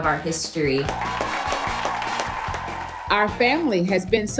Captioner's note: family applauding